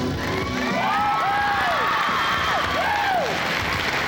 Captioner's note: cheers, applause